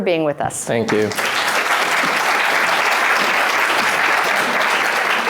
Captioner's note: applause